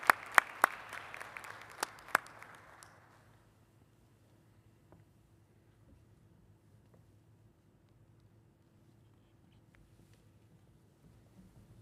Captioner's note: applause